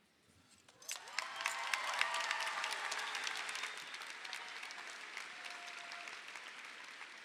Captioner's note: audience applauds; audience cheers